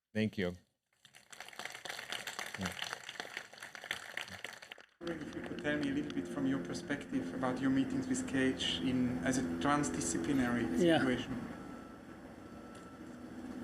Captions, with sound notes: Thank you. (audience applausing) - Tell me a little bit from your perspective about your meetings with Cage as a transdisciplinary situation. - Yeah.